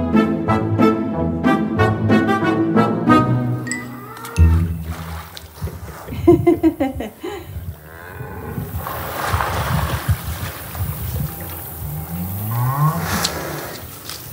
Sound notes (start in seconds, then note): 6.0 laughter; 9.3 buffalo lowing